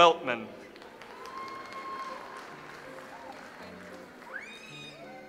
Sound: audience applauds

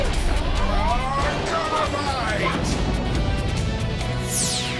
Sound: explosions

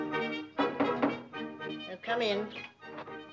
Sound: knock

